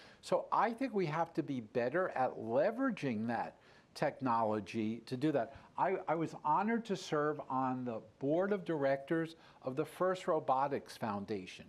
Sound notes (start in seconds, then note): none